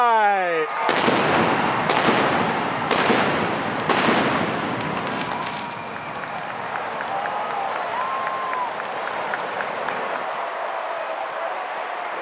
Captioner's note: crowd cheering